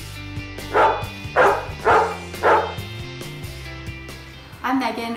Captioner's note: dog barking